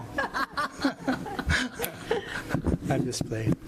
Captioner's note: laughing